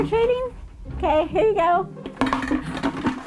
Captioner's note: clunk noise